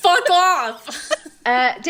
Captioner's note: laughing